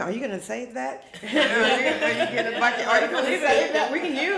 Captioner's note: all laughing